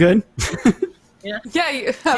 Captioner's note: laughs